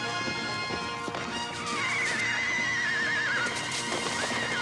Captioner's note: horse neighing